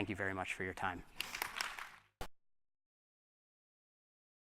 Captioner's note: applause